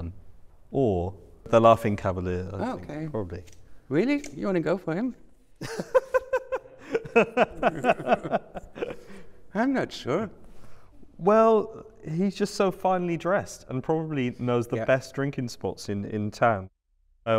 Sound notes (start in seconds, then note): 5.6 laughter